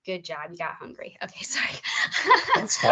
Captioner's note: laughing